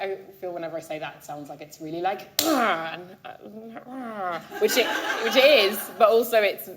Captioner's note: groans